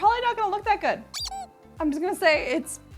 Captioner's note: toy squeaking